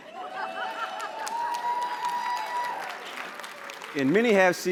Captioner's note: laughter; applause and cheering